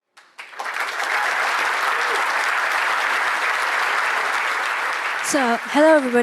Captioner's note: applause